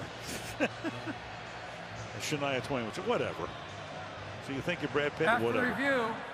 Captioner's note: laughs